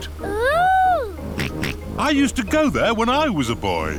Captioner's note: snorts